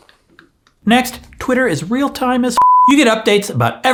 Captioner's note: beeps